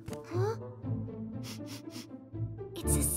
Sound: panting; sniffs

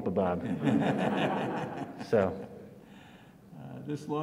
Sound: audience laughs

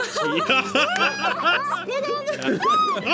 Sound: laughter

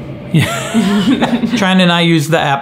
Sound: laughs

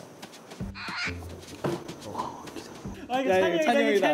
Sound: surprised

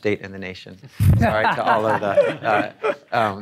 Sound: audience laughing

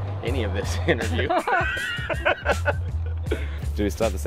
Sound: laughing

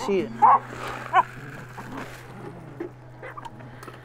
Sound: dog barking

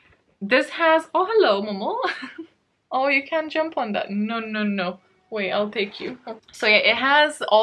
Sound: laughs

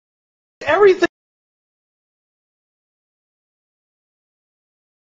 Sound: audio cuts out

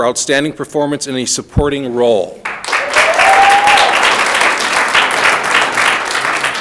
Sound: audience applauding

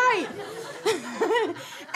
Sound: scattered laughs continue

